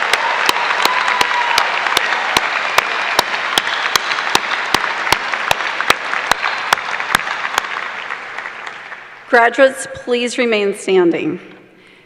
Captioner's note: cheers and applause